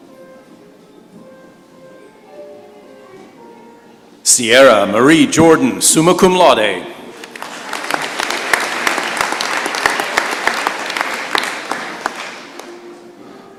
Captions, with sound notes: Cierra Marie Jordan, summa cum laude. [applause]